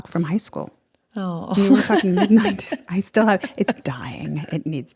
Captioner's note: laughs